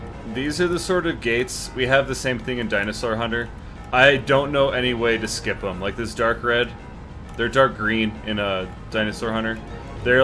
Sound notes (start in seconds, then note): none